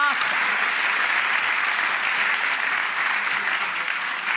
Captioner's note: audience applauds